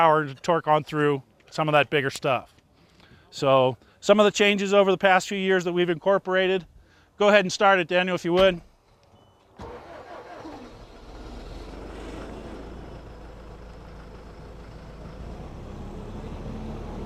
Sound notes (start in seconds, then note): 9.5 engine starting